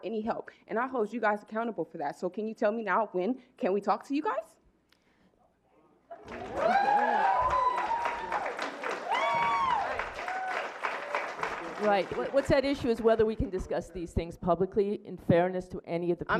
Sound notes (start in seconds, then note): 6.2 clapping